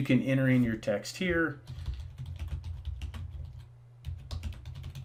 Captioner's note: keys typing